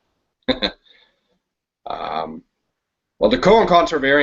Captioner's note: chuckles